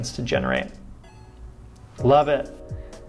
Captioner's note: computer beeps